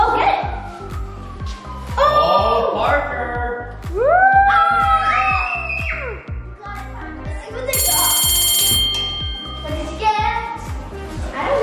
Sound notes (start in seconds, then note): 3.9 all cheering; 7.7 bell ringing